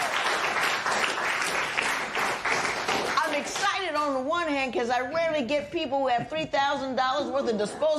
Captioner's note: applause